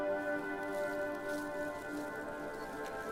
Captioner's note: none